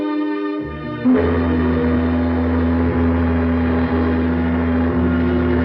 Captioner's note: ship horn blowing